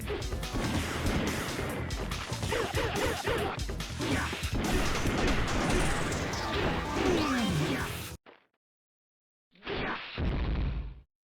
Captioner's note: game sounds